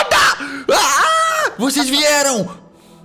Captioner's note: shouts